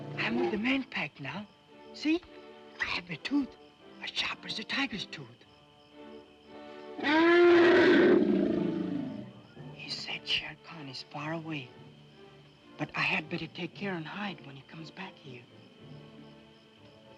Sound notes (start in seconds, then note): 7.0 elephant roars